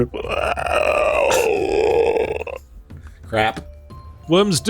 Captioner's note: horrible monster worm noises